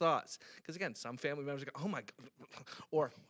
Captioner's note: stammers